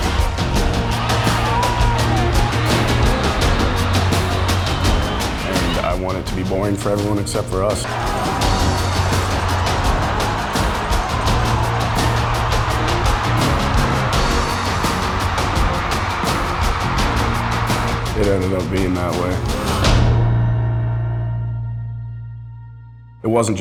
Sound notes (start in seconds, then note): 0.2 intense music; 8.6 crowd cheering